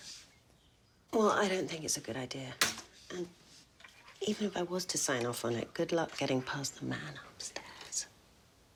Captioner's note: none